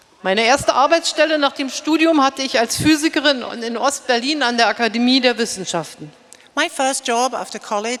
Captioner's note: speaking in German